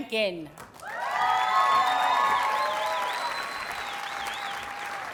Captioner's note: audience cheers and applauds